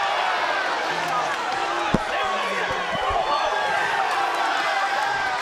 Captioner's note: audience shouting